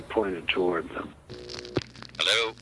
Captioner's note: phone buzzing